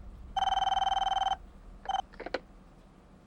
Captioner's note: phone Ringing